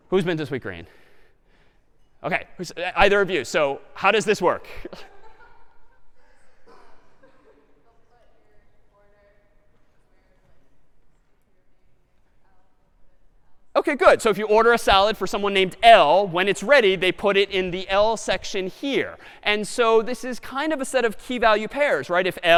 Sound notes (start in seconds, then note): 4.7 laughter